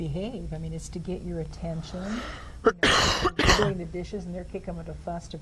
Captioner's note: coughs